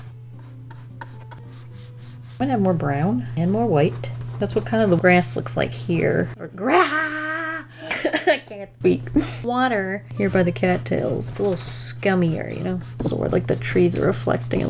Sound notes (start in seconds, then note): 6.6 laughs